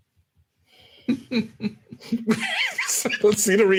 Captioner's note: laughing